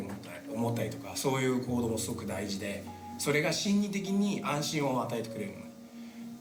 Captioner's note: speaking in foreign language